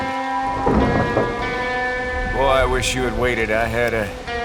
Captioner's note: thunder clap